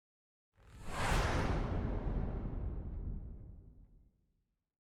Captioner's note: whoosh